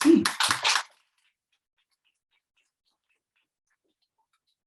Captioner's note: audience applauding